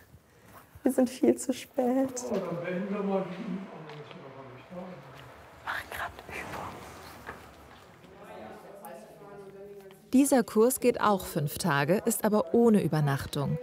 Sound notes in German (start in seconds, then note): 5.4 flüstert